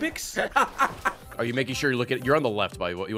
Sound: laughs

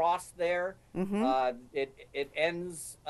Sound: hums

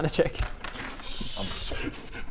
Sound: destructive giggling

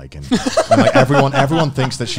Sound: laugh

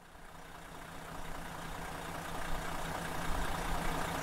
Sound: engine puttering

